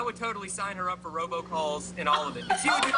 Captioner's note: laughter